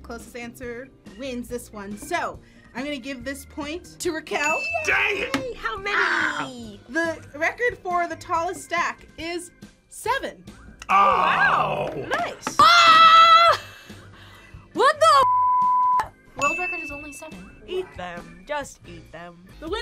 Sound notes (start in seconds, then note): 12.6 screams; 16.4 bell rings